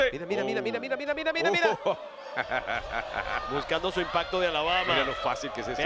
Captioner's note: laugh